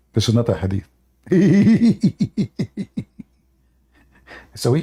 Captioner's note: Ketawa